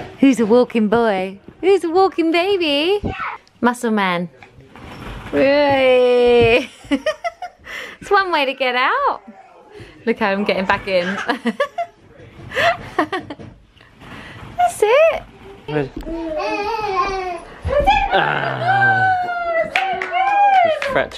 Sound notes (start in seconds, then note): 6.6 laughs; 11.0 laughs; 16.0 coos; 18.5 laughs